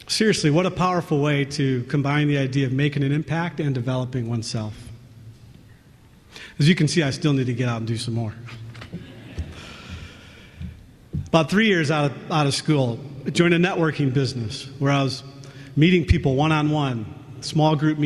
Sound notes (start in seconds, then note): 9.0 laughter